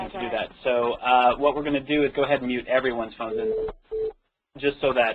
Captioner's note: beeping